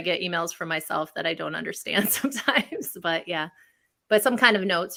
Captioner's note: laughs